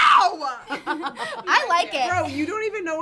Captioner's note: laughs